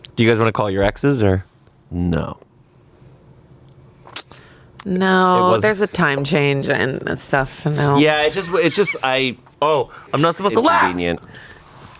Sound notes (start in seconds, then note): 8.5 laughs